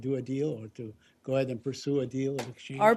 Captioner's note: off-mike